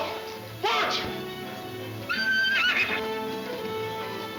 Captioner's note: horse whinnying; exciting orchestra music